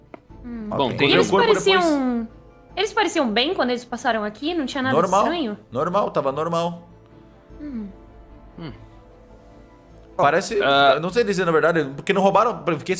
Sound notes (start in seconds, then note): 7.6 hums